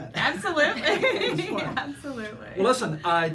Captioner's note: laughing